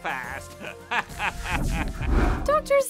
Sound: laughing

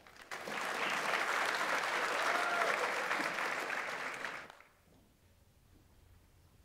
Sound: audience applauds; audience member cheers

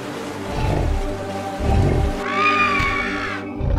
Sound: birds screeching

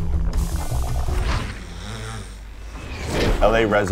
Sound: dog snoring

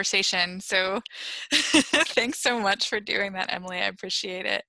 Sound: laughter

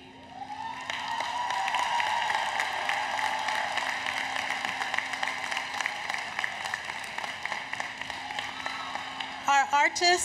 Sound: applause, Cheering

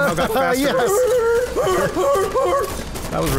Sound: more Seal Barking

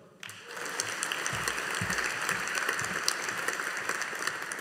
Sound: audience applauding

